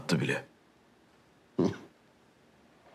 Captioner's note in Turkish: Gülüyor